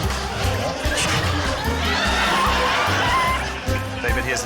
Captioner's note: mumbles, grunts; laughter